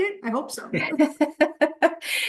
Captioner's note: laughter